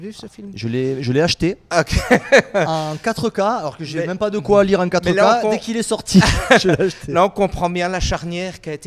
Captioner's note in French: rires